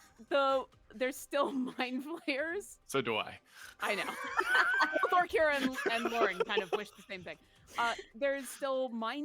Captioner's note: laughs